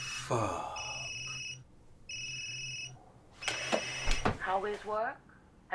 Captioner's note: phone ringing